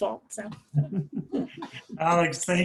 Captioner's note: people laughing